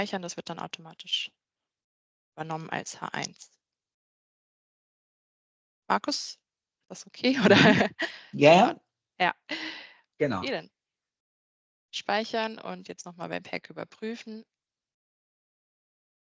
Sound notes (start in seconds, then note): 7.4 laughs